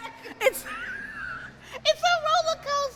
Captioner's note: laughs